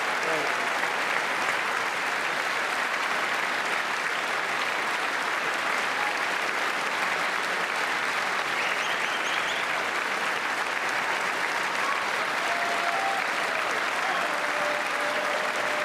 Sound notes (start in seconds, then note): 0.0 applause